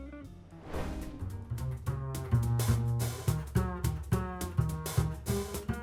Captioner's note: transition whooshing; upbeat music